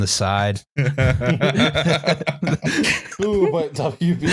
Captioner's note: laughter